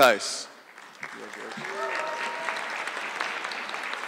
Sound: audience clapping

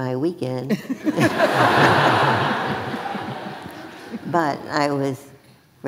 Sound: audience laughing

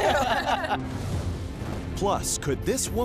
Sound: laughter

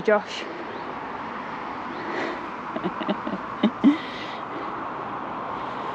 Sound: laughter

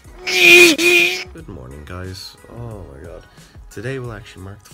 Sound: mumbles

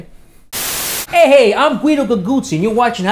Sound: static hisses

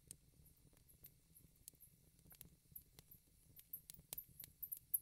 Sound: moments pass, hearing the squeaking and scuffling of rats in the darkness

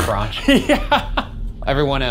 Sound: chuckling

